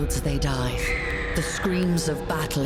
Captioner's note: scream